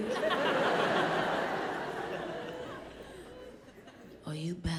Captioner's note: audience laughs